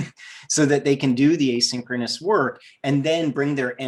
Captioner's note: giggles